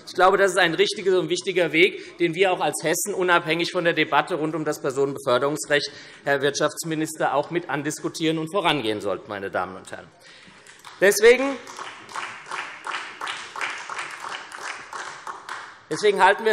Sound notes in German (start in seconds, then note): 10.6 Beifall SPD